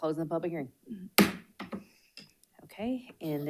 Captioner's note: gavel pounds